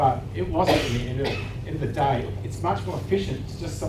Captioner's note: audience member coughing drowns out speaking